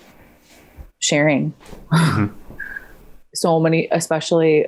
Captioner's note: scoffs